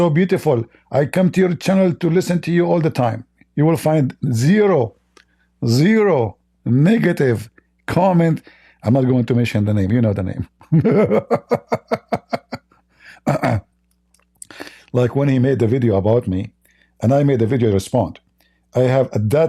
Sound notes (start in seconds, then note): 14.1 Ketawa